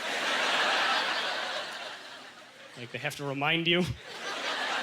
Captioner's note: audience laughter